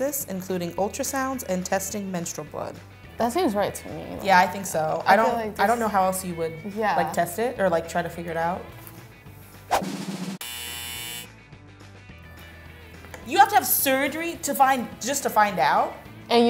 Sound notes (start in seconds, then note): 9.8 drum rolls; 10.4 buzzer